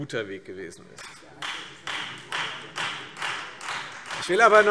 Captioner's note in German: Beifall Freie Demokraten